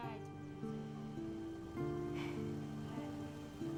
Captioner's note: sighs